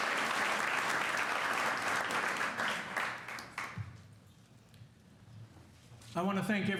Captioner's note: applause